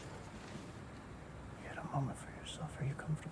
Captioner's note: whispering